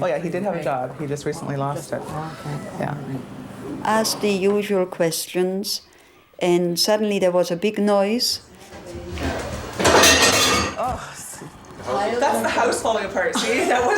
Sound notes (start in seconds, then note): 9.9 bang